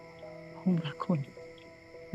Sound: in Thai

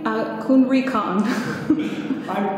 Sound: laughing

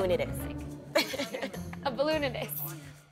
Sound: laughs

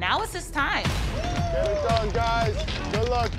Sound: cheering

